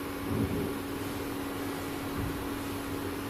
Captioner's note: thump